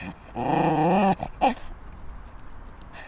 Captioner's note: growling